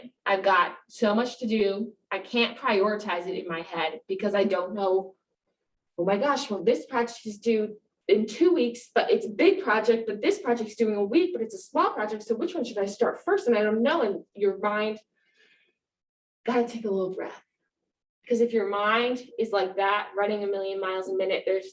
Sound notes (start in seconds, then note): 15.4 inhales